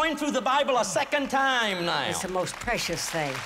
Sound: applause

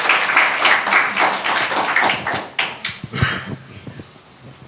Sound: applause

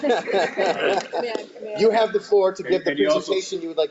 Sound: all laughing

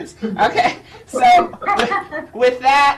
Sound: laughing

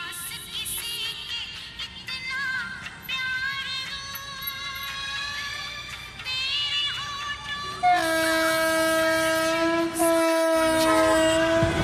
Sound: music from local festival; train Whistles

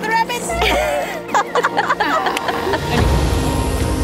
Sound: laughter; dramatic music

